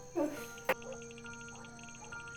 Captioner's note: sigh